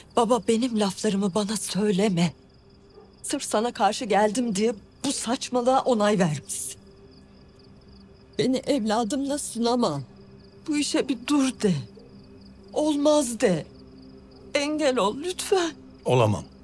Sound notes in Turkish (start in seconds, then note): none